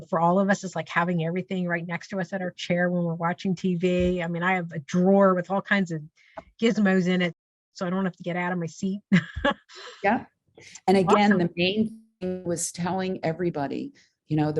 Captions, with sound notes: for all of us, is having everything right next to us at our chair when we're watching TV? I mean, I have a drawer with all kinds of gizmos in it, so I don't have to get outta my seat. (laughs) Yep, and again- Awesome. The main thing was telling everybody,